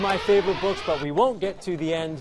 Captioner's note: buzzer